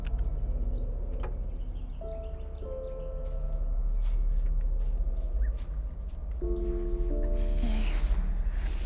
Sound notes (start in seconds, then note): 1.9 bird chirp